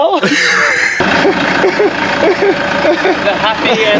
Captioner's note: fake cries